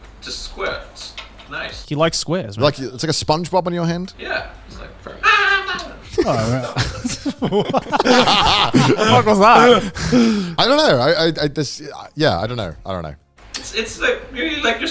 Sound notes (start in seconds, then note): 5.4 imitates SpongeBob; 6.1 all laughing